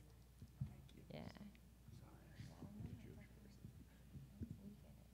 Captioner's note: speaking away from mic